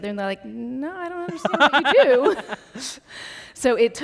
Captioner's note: laughs